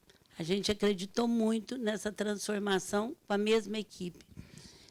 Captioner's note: speaking Portuguese